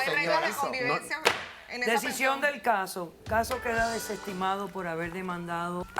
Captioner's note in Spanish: Hablan al unísono